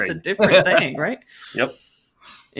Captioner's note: laughs